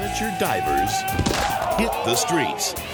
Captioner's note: people shouting; body thumps